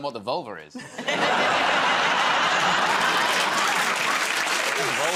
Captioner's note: laughter